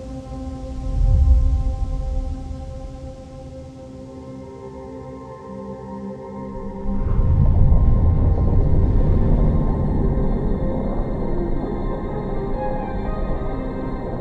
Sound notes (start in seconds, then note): 0.7 light music; 6.5 volcano rumbling